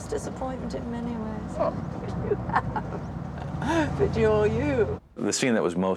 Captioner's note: laughs